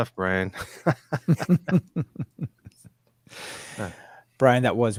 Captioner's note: both laughing